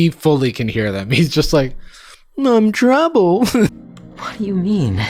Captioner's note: chuckles